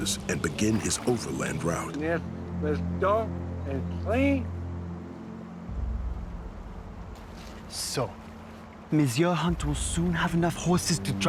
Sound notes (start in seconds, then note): 3.5 speaking arikara